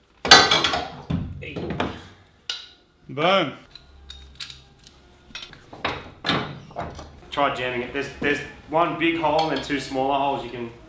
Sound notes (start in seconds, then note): 0.2 metallic clattering; 5.9 metallic clanking